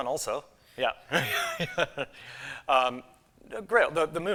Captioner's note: laughs